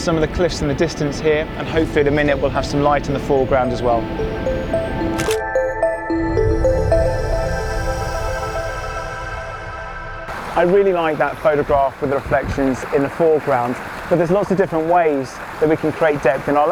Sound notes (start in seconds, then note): 5.1 camera shutters; 6.5 soft music